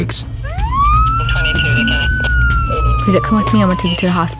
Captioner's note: siren